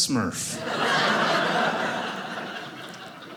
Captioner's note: audience laughing